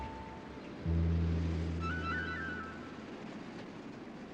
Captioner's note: engine revving